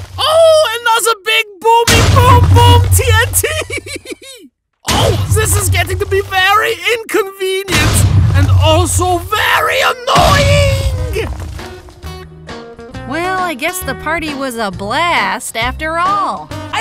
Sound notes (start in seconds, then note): 4.9 loud explosion; 10.1 loud explosion